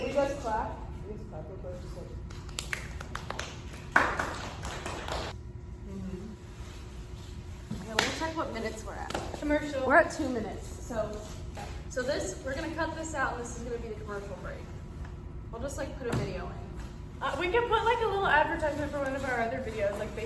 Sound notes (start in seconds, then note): 5.8 clapping sounds; 8.4 clap